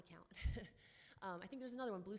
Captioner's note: chuckles